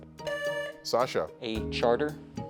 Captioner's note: tone sounds